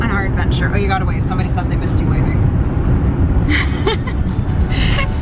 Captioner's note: laughs